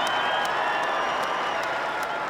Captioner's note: cheering